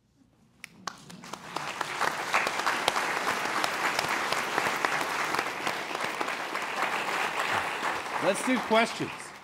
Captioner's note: clapping